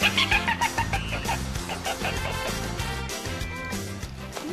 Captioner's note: dolphins emit rapid clicking; dolphins emit high-pitched chirps